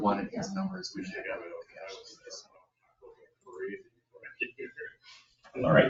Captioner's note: speaks distantly